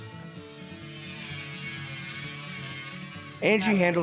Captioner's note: power tool noises